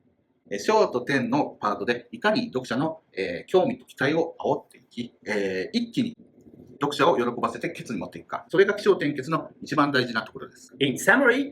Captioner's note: speaking Japanese